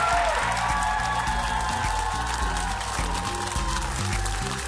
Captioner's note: audience cheering